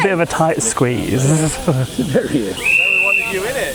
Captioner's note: laughter